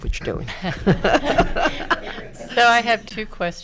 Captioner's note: everyone laughing